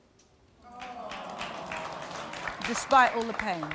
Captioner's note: audience sighing